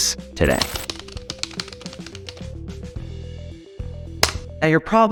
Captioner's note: keyboard typing